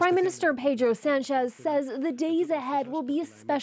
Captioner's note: speaking alternate language